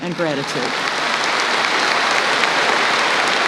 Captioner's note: applause